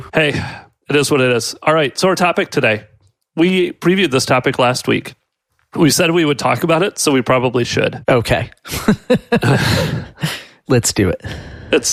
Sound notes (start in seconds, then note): 8.7 laughs